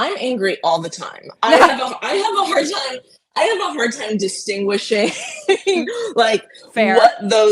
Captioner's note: laughing